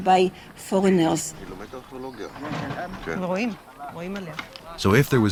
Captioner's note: both speaking Hebrew